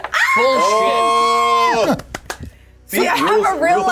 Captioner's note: Jasmine cheering